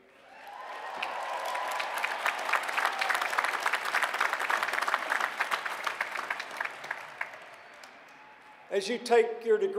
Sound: applause

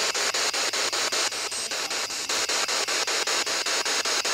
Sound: loud, choppy static

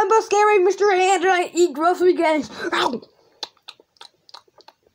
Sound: eating

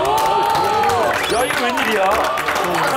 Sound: round of applause

